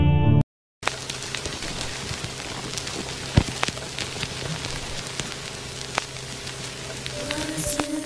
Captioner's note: radio static